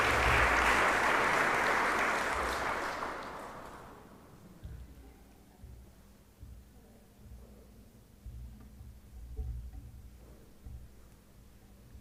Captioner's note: applause